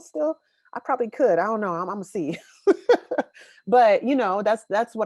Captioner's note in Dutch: laughs